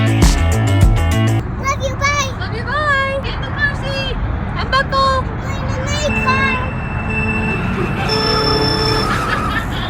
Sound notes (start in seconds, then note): 6.0 Mario Kart sound effects